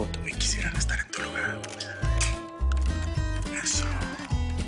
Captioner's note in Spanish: Sonido del obturador